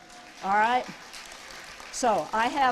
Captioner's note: applause